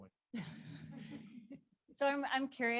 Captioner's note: laughs